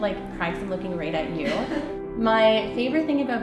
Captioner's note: laughter